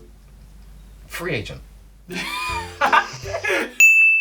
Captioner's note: laughter